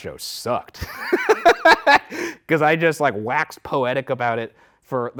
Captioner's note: laughs